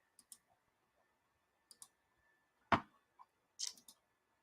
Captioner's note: mouse clicks